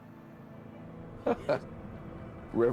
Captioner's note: laughing